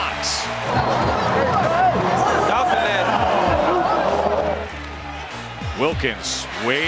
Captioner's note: crowd noise